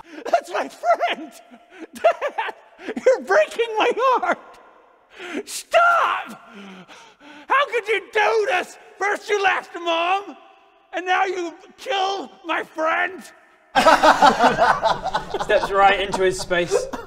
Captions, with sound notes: That's my friend! Dad! You're breaking my heart! STOP!! HOW COULD YOU DO THIS?! FIRST YOU LEFT MOM AND NOW YOU KILL MY FRIEND?! *LAUGHS* steps right into his space